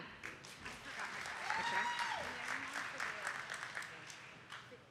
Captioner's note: attendees clapping